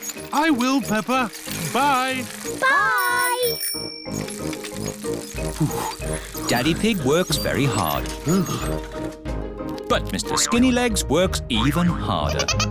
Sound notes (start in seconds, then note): 3.2 bell rings; 5.6 panting